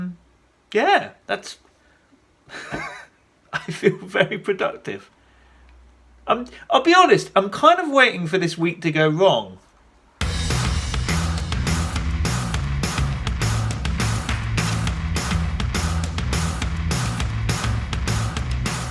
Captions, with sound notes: (laughs) I feel very productive. I'll be honest, I'm kind of waiting for this week to go wrong. (upbeat music)